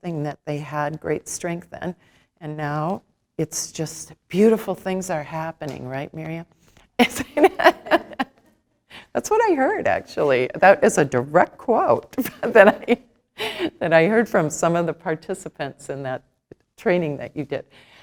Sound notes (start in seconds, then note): 7.2 laughs